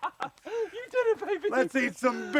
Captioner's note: laugh